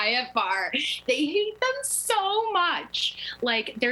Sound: laughter

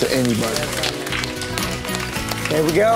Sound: group clapping

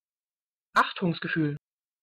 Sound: fast Pronunciation

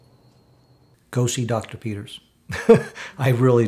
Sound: laughs

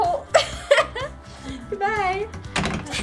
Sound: laughs

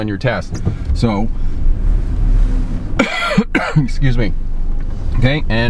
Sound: coughs

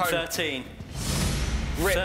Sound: whooshing

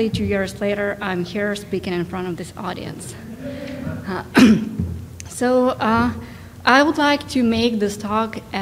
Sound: coughs

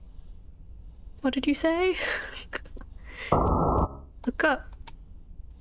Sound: laughs nervously

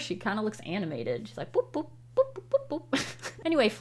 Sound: laughs

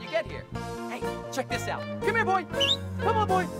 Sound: whistles

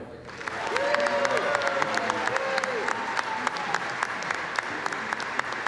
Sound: applause

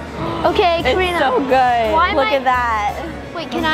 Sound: gasps

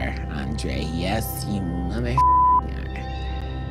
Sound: beep

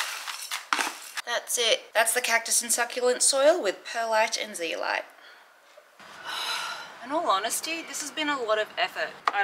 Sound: sigh

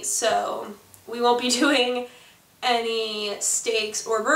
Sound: laughs

